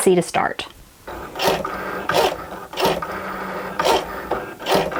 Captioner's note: Cricut whirs